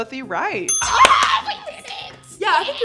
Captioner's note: bell dinging; everyone cheering